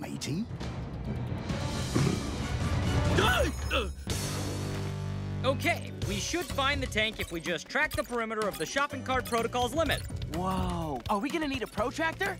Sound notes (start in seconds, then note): 0.2 dramatic music; 2.7 yelps